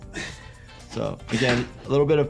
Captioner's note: IShowSpeed panting